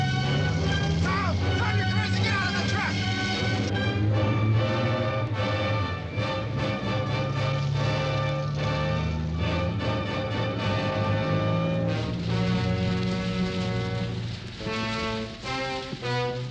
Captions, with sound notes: - Stop. I'm telling you guys to get outta the truck. (dramatic instrumental music) (fire crackling)